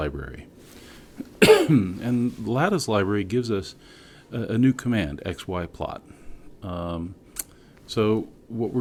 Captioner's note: cough